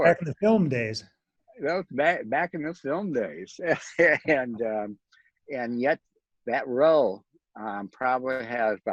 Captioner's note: chuckles; chuckles